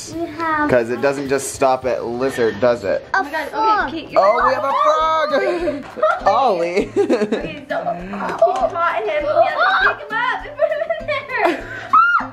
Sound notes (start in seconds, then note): 4.1 screaming; 5.2 laughs; 11.9 screaming